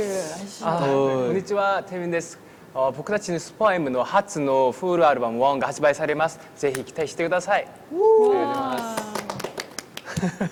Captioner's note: speaking in Japanese